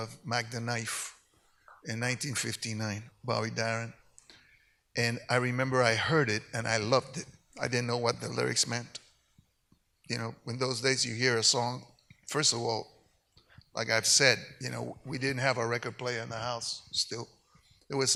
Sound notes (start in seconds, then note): none